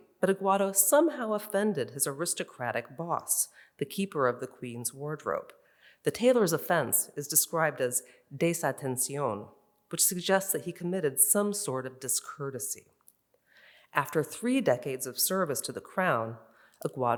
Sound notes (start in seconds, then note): 7.9 in Spanish